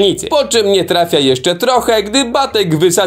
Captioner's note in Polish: none